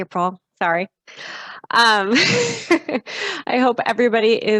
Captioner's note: chuckles